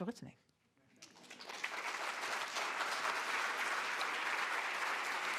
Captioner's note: audience applauds